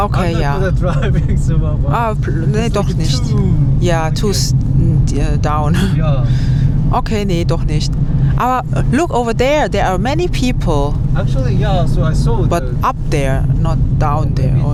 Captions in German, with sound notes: ja [gelächter] doch nicht ja down [räuspern] okay nee doch nicht aber over people